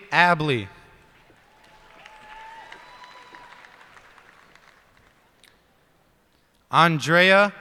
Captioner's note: cheers and applause